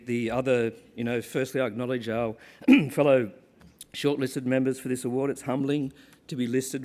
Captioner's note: cough